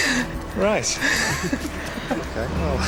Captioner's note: laughs